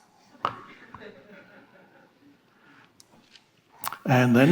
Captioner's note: audience laughing